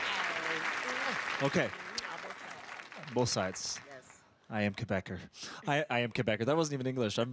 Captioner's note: applause